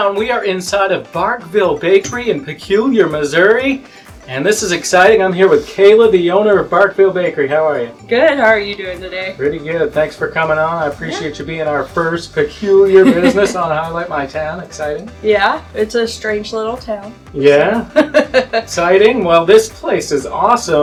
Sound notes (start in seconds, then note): 17.8 laughs